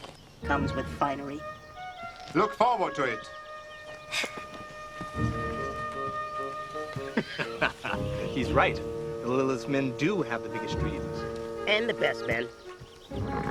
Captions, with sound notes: comes with finery? (light orchestral music) - Look forward to it. - (sigh of relief) - (laughing) He's right. The littliest men do have the biggest dreams. And the best men.